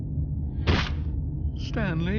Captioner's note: splat